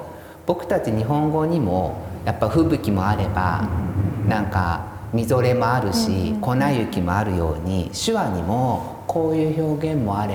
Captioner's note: snow storm